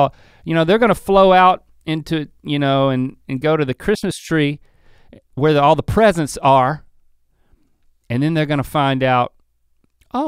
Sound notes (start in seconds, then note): none